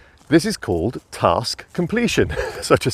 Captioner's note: laughing